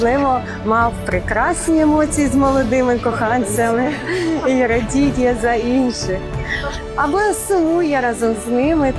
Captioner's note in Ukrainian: сміх